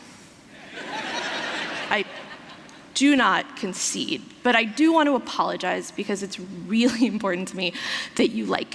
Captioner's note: laughter